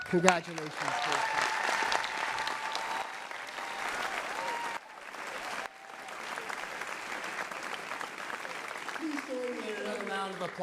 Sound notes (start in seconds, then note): 2.1 cheering and applause